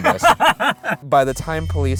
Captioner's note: laughing